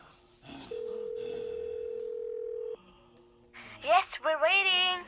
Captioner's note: phone ringing; Max wheezing